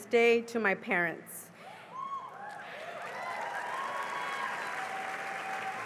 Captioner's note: cheering and applause